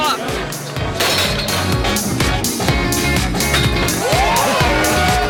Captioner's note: bell dings; crowd cheering